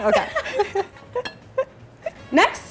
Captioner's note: laughing